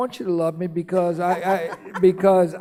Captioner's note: laughing